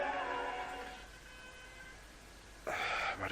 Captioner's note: honking in the distance